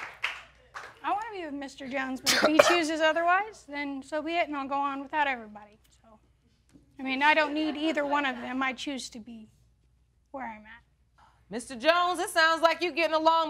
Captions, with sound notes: I want to be with Mr. Jones, (COUGHING) but if he chooses otherwise then so be it, and I'll go on without everybody, so... I mean, I don't need either one of them, I choose to be where I'm at. Mr. Jones, this sounds like you're getting along better